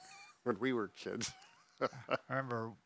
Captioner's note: laughs